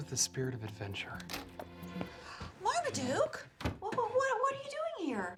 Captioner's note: gasps